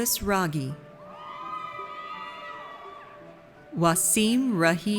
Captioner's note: audience cheers